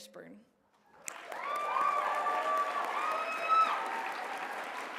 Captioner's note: applause